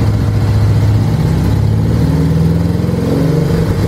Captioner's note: engine revs and slows several times